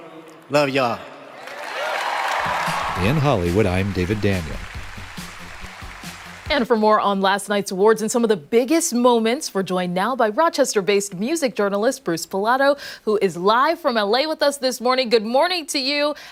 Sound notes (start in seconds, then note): 5.2 applause